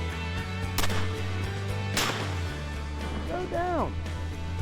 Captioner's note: gunfire